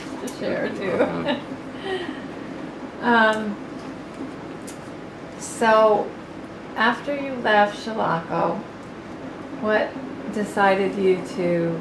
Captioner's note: laughs